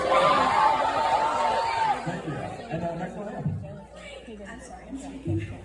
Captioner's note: audience cheers